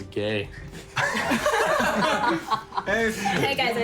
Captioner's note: laughing